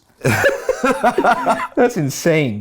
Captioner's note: laugh